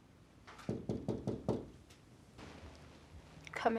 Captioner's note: E.J. knocking lightly